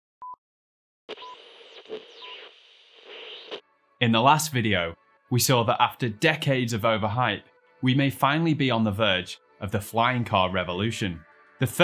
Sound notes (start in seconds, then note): 0.3 beeping; 1.2 buzzing